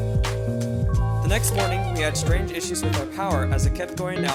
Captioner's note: voiceover